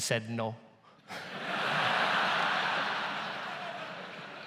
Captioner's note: audience laughs